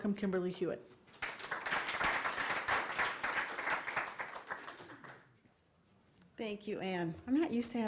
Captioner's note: applause